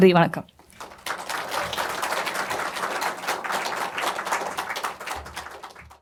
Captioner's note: applause